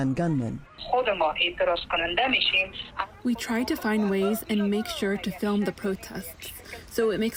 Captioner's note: through translator